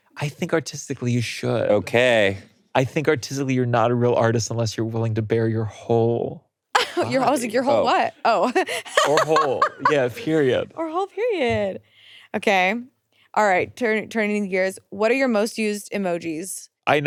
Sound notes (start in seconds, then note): 8.3 laughing